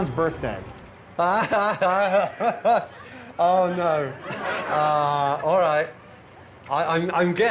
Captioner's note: laughs